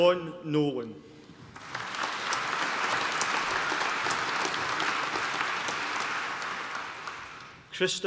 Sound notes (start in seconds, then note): 1.5 applause